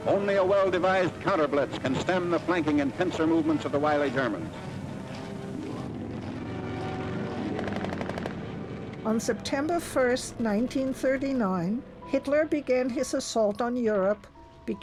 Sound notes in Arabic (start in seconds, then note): 9.0 إطلاق نار; 9.0 موسيقى درامية